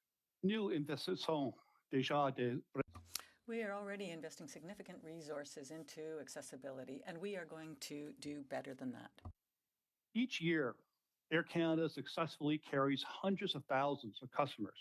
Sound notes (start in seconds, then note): 7.9 speaking French